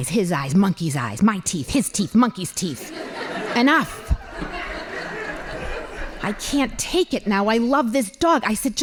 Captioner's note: laughing